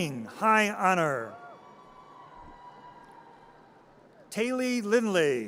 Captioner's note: audience cheers